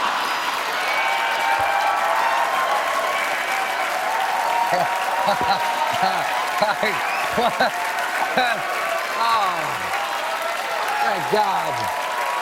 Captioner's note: cheers and applause